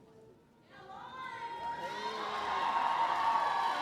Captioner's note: cheering